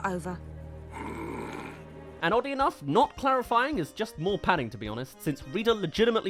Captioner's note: snarls